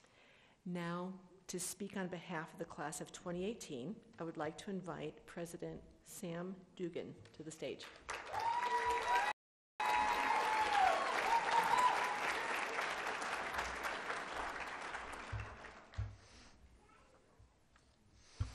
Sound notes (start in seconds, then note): 9.8 applause and cheering